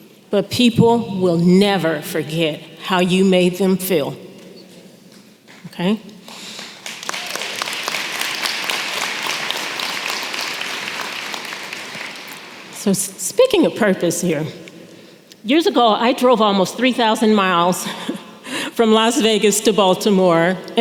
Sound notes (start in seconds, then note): 6.2 applause